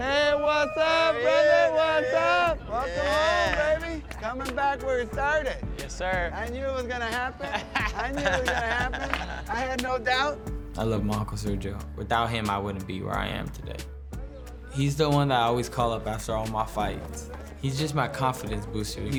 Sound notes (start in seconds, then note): 7.1 laughter